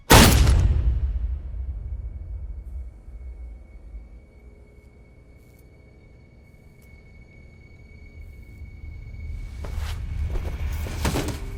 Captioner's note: gunshot; soft music